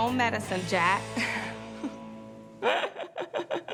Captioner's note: laughs